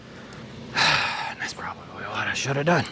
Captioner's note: exhales